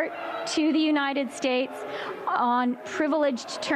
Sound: chanting

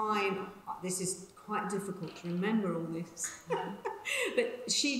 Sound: laughs

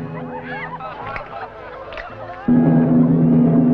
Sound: smack, smack

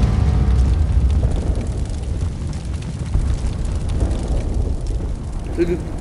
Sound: loud explosion; sound of intense fire

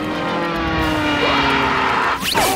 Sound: screaming

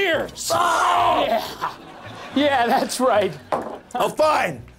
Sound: screams in pain

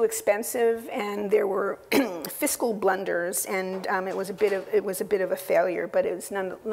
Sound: cough

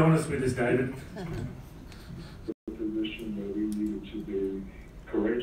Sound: laugh

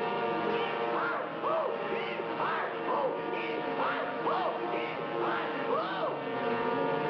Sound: screams

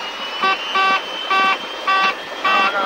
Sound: take off configuration horn starts

